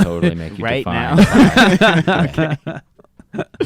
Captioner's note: laughing